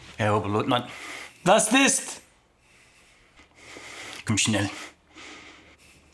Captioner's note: Siegmund speaking German